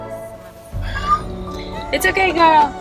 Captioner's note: Fifi meows